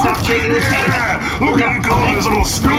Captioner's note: Mymut’s liquid splashes all over